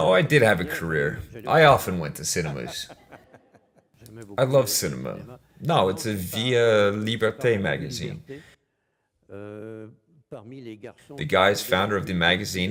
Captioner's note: laughs